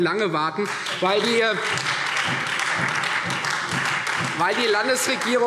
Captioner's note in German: Beifall Freie Demokraten und vereinzelt SPD